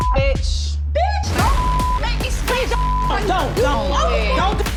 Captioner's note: beep